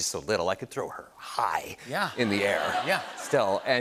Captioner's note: laughter